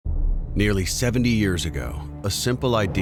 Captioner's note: voiceover